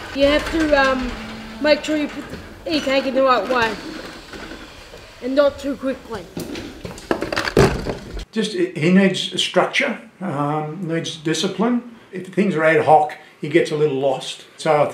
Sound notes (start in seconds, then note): 3.8 warehouse noise; 7.0 machine noise